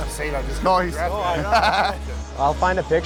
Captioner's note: laughs